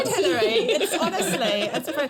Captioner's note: laughter